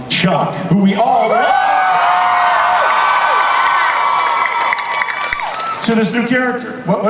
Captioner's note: audience cheers